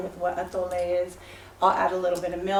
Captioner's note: non-english speech